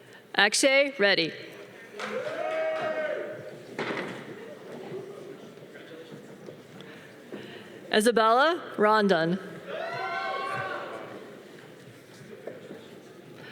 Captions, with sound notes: Axion Randy. (audience applause) - Congratulations. - Isabella Rondon. (audience cheering)